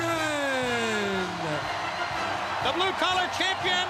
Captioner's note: crowd cheering